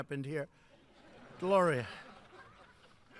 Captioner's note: laughter